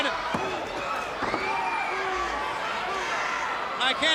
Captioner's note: countdown thudding